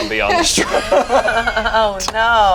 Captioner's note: group laughs